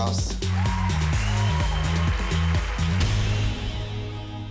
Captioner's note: cheering and applause